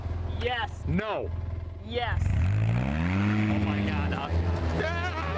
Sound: laughter

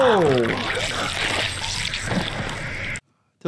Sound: blood squelches

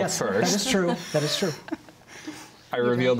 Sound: laughter

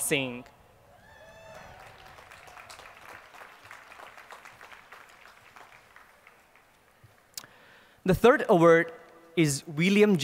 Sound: applause

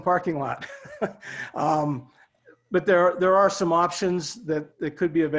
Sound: laughter

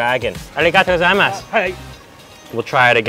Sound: speaks in foreign language

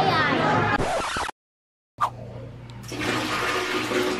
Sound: record scratching; water splashing

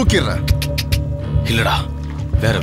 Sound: clicks tongue

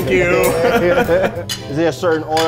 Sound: both laugh

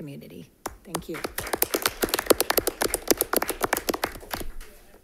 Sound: crowd applauding

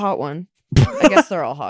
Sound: cackles

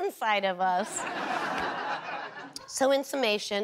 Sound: audience laughter

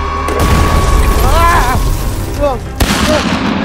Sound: man screams

